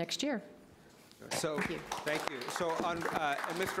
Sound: applause

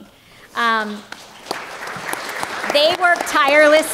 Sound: applause

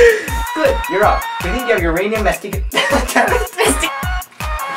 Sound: laughs

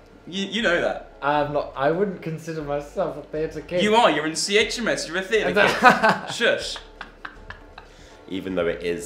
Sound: he laughs

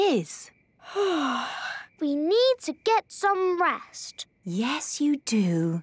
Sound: yawning

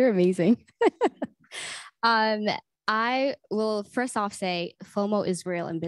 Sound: laughs

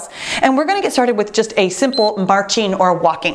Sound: timer beeps

